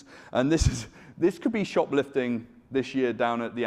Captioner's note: chuckles